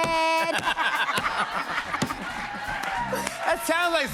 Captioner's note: laughter